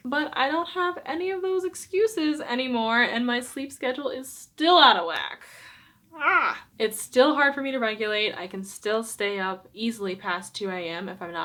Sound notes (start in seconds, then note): 6.2 exclaims